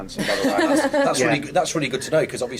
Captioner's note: laughs